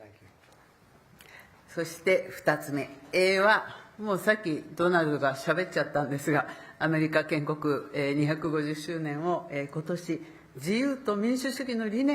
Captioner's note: speaking Japanese